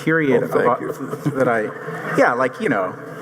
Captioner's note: audience chuckling